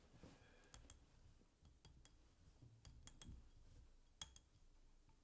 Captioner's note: tapping continues